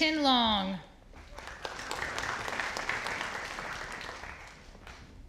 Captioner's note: audience applauding